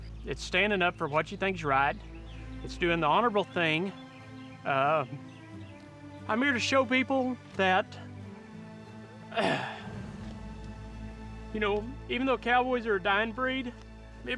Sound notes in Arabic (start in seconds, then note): 9.3 يصفي الحلق